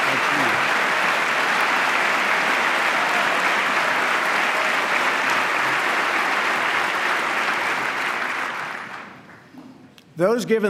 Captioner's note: applause